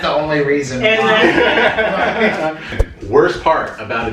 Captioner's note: laughter